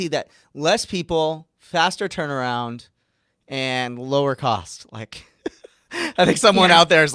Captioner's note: laughing